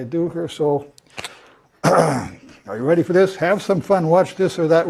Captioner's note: cough